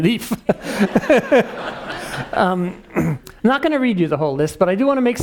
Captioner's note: laugh